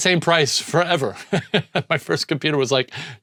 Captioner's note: laughs